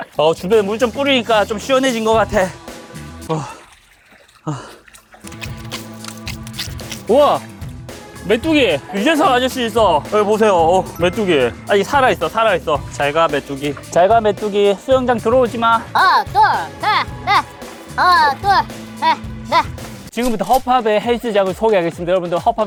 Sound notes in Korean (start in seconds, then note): 17.5 촤악; 19.7 촤악